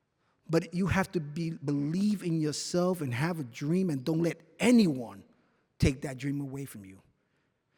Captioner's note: none